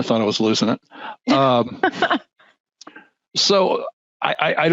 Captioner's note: laughing